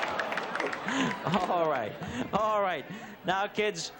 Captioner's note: laughs